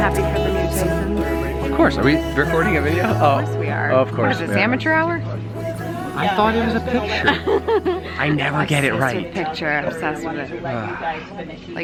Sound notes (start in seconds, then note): 7.7 laughs